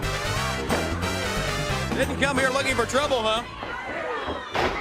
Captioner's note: crowd cheering